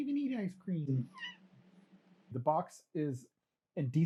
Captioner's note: disagreeing meow